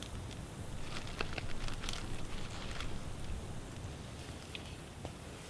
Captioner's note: paper rustling